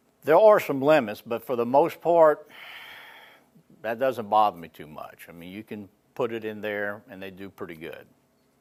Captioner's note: none